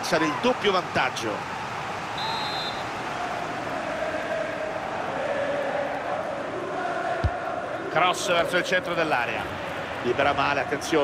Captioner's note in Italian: Applauso